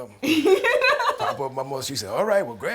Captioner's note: laughs